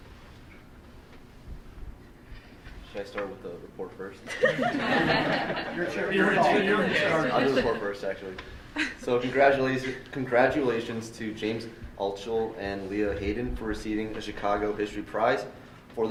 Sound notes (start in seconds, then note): 4.2 group laughing